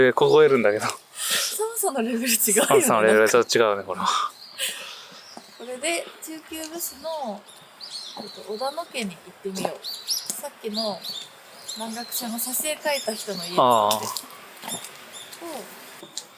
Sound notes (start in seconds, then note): 2.1 laughs